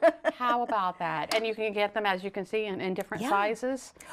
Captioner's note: laughter